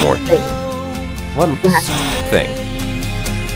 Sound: static

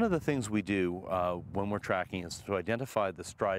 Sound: voiceover

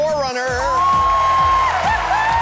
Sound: screams; applause

